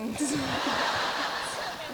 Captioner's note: laughs; audience laughs